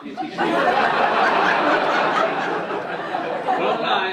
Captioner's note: audience laughing